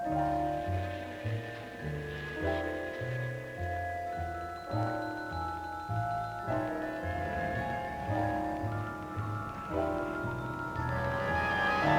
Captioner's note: suspenseful music; engine revs